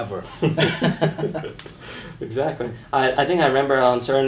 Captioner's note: laughing